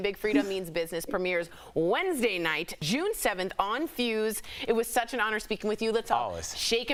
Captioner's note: laughter